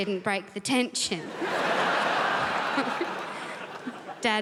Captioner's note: crowd laughs